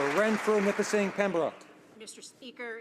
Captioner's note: some Applause